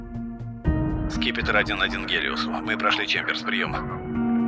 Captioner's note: radio